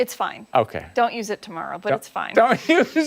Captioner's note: laughter